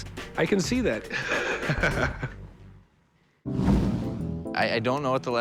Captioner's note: chuckles